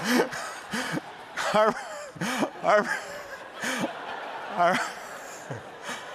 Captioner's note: laughing